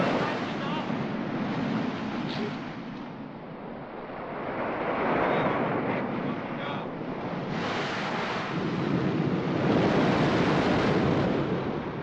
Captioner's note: wind howling & waves crashing